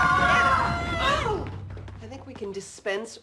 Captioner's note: kids screaming; groans